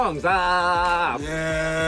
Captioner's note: Desus vocalizes; Mero vocalizes